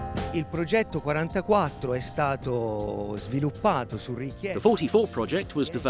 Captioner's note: speaks in foreign language